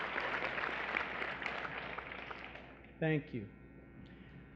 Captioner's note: applause